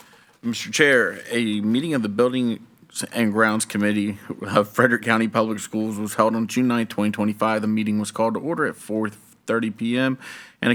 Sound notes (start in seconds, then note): none